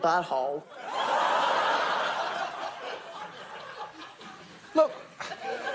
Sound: audience laughs

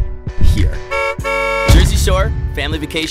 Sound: honking

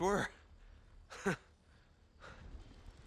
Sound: laugh

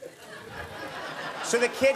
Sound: audience laughing

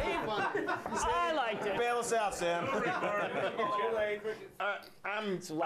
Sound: scattered laughs

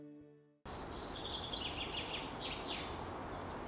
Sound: birds chirping

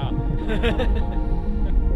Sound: laughing

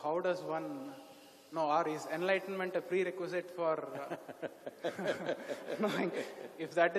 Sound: both laugh

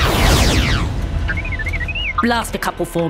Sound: beeps

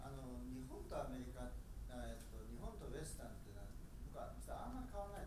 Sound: speaking in foreign language

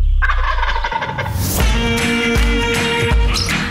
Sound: turkey gobbling

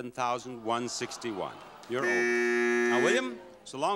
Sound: horn honking

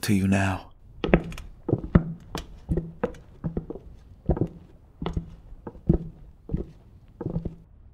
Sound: hayden and kameron's conspicuous footsteps

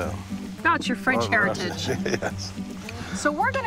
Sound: laughs

